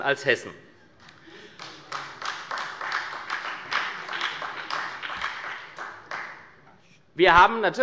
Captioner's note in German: Beifall bei der SPD